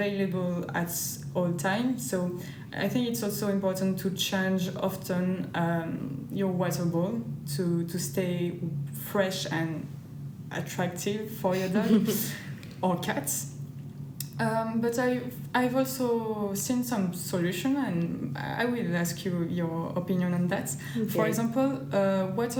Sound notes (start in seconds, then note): 11.6 laughter